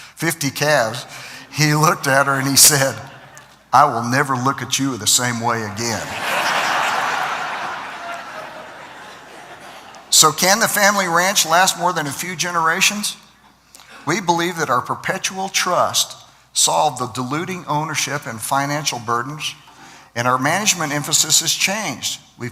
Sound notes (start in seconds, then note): 6.0 laughter